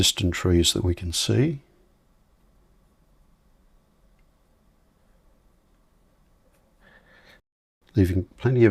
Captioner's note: silence